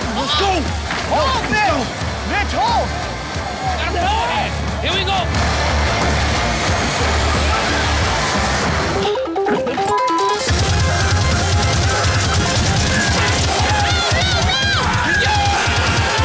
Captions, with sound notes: Let's go! No, let's go! - Hold Mitch! Mitch hold! - Here we go! (upbeat music) - (beep) - Oh no! No! - Let's go!